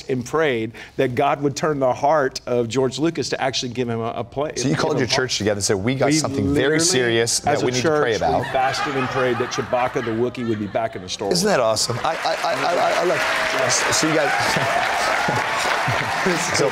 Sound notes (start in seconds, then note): 8.3 laughter; 11.9 applause; 14.9 laughs / Applause